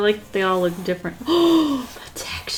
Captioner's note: gasps